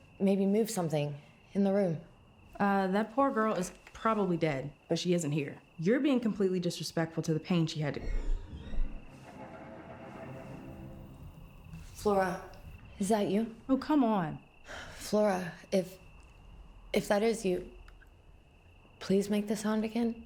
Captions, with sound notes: Maybe move something in the room. - That poor girl is probably dead, but she isn't here. You're being completely disrespectful to the pain she had to-(object scraping) (suspenseful music) - Flora. Is that you? - Oh, come on. - Flora, If, if that is you, please make the sound again.